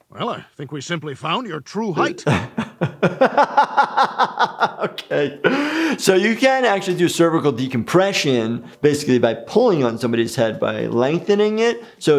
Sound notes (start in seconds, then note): 1.9 laughs